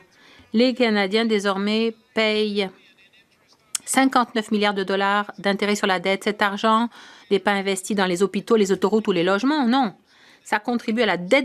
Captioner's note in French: voix de l'interprète